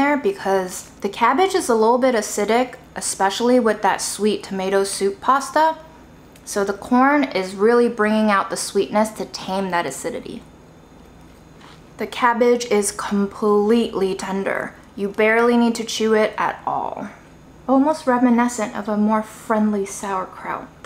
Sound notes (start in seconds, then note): 11.6 food crunching